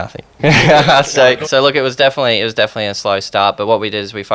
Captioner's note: laughs